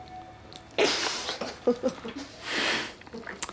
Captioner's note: laughing